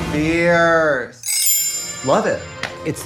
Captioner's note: chimes tinkle